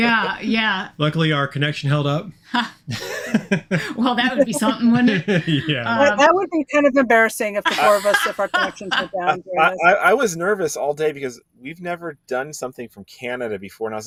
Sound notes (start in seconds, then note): 2.9 chuckling